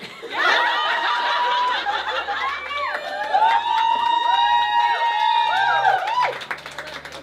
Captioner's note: laughter, applause, cheering